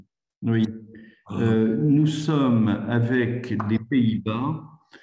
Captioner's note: speaks in foreign language